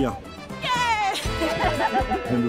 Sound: laughs

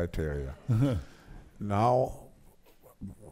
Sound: audience laughs

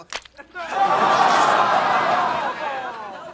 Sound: laughing

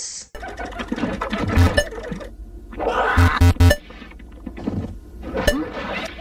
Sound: laughing and the occasional computer beep

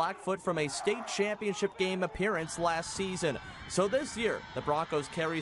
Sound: cheering

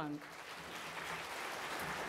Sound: applause

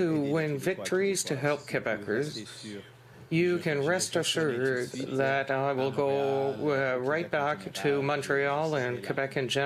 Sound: speaking French

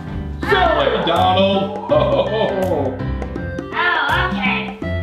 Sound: laughs

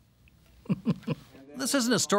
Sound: chuckling

